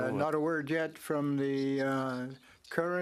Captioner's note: speaking French